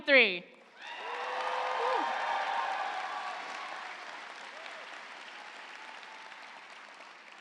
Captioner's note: audience applauding; audience cheering